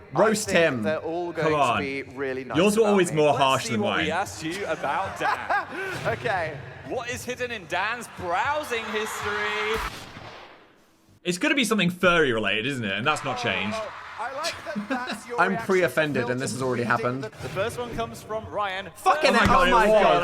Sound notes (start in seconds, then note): 4.9 chuckling nervously; 9.7 gunfire exploding; 14.3 chuckling